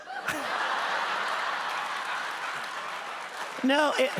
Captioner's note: audience laughter